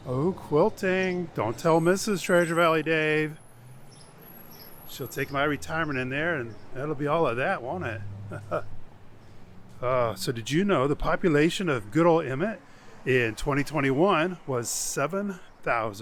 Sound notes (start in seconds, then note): 8.2 laughs